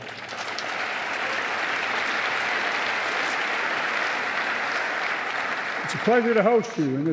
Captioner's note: applause